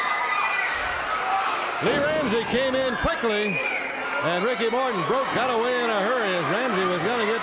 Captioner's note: crowd cheering